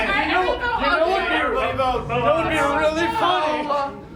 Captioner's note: everyone yelling